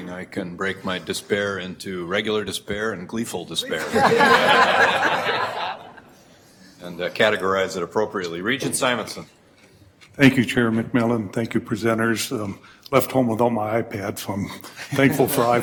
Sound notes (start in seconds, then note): 3.7 everyone laughs; 15.0 chuckles